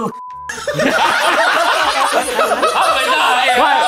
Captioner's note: laughs